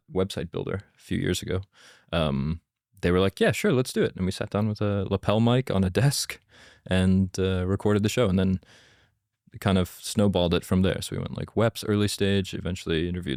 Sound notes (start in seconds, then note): none